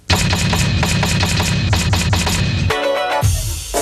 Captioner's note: typewriter clacking; upbeat music